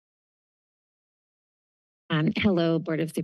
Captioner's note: silence